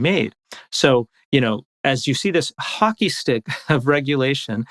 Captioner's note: laughs